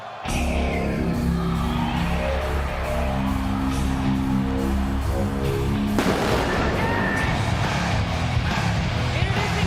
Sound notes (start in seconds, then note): 0.0 crowd cheers; 0.2 rock music plays